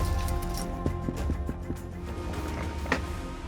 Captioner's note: knocking on door